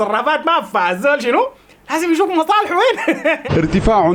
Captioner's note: laughs